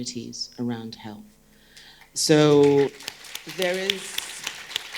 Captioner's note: group clapping